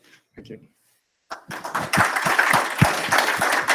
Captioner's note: applause